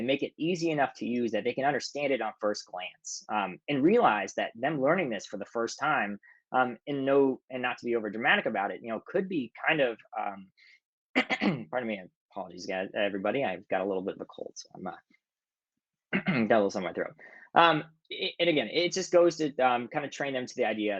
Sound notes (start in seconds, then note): 11.1 clears throat; 16.1 clears throat